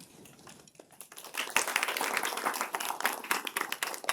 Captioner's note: applause